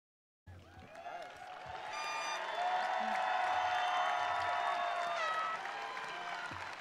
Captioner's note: attendees applauding; attendees cheering